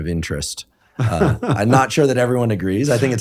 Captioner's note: laughs